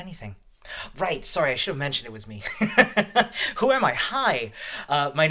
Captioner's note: laughs